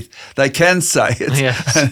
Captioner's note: laughs